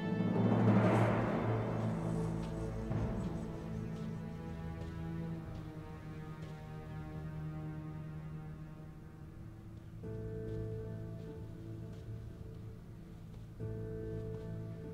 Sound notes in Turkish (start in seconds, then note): 0.3 Ayak sesi; 1.8 Müzik - Gerilim